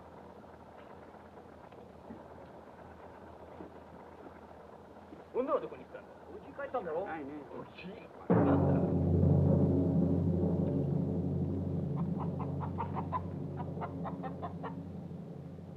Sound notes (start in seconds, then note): 8.2 suspenseful drumming music; 8.7 chicken bawks